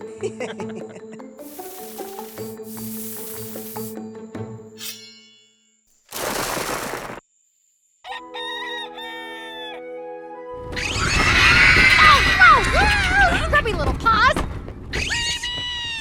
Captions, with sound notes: (snickering) (rooster crowing) (screaming) - Gross! Grubby little paws! - Rabies!